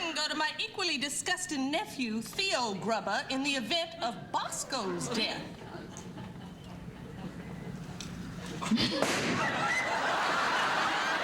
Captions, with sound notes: TO MY EQUALLY DISGUSTIN' NEPHEW, THEO GRUBBER, IN THE EVENT OF BOSCO'S DEATH. [GUNSHOT]